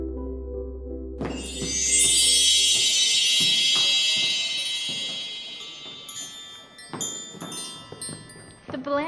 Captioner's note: magical sparkling chime